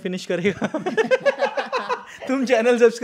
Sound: laughing

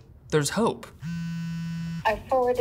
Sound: phone ringing

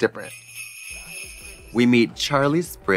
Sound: sleigh bells jingling

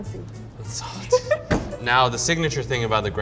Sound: laughs

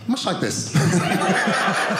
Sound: audience laughing

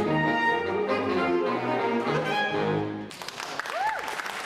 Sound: applause

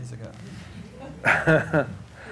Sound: laughter

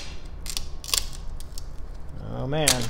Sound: crunch

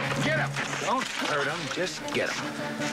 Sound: splash

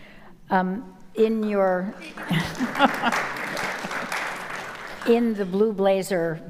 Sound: audience applauding

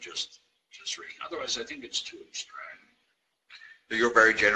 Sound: murmurs

